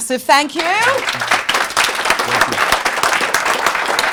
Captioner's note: applause